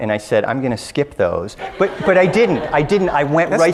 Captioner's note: audience laughs